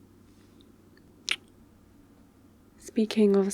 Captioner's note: kiss